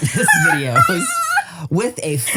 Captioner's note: laughs